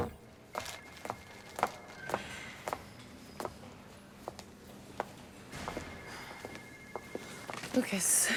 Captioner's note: footstep